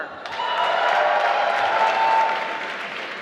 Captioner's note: applause